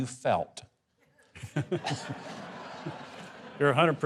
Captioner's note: crowd laughing